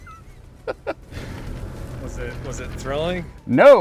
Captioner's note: laughs